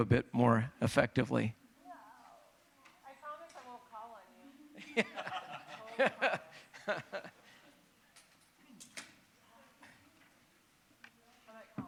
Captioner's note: laughter